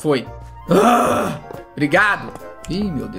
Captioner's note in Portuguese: resmunga